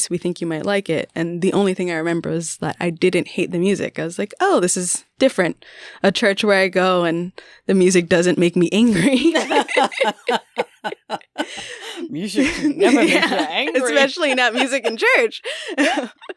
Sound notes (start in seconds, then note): 10.4 laughter